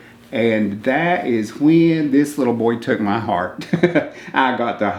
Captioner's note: chuckles